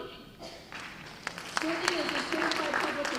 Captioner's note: applause